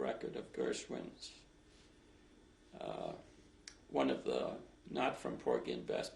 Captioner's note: pauses for 3 seconds